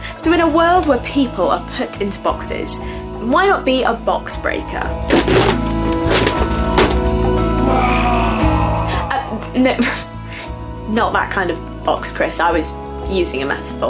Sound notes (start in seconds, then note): 5.0 boxes rattling; 7.6 screams